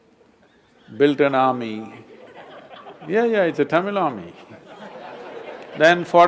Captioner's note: laughter; 笑聲